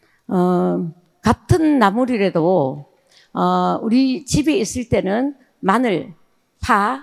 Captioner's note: speaking in foreign language